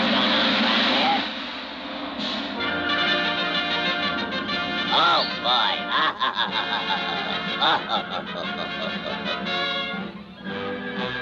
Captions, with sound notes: - Hey, what's goin' on? (triumphant music) Oh, boy! (laughing)